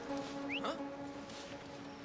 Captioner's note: whistle